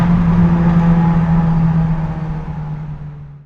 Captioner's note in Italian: rombo di motore